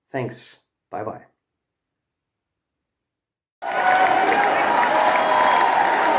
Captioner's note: applause